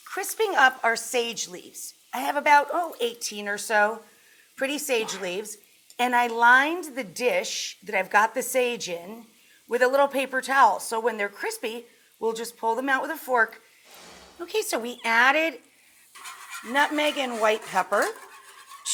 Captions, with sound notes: crisping up our sage leaves. I have about oh 18 or so, pretty sage leaves. And I lined the dish that I've got the sage in with a little paper towel. So when they're crispy, we'll just pull them out with a fork. (screen swoosh) Okay so we added nutmeg and white pepper,